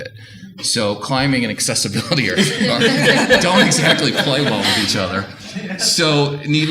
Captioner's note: audience laughter